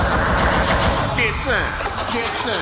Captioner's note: sex gun firing off machine-gun style